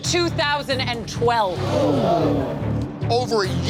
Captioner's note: gasps